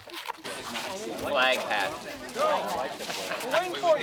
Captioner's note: crew chattering